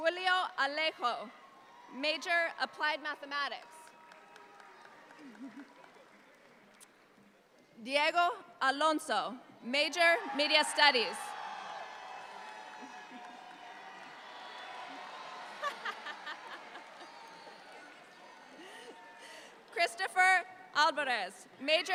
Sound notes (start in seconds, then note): 9.9 audience applauds; 14.5 alumni member laughs; 14.5 audience applauds more